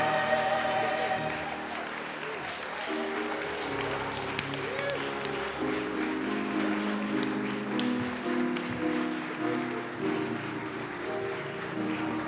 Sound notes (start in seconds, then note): 2.0 audience applauding; 6.4 soft piano music